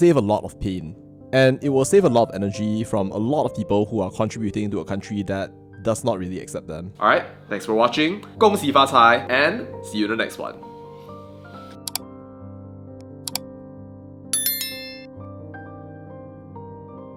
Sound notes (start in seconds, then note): 11.8 click; 14.3 bell rings; 15.1 soft music